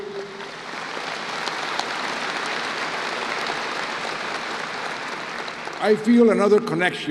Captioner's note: applause